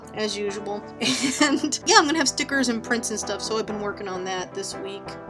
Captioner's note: laughs